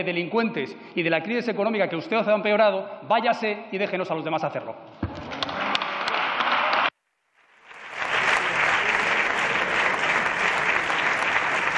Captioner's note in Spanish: Aplausos